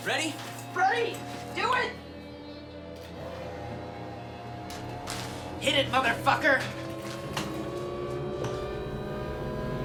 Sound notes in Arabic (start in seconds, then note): 2.0 آلة تدندن; 7.1 دندنة الآلة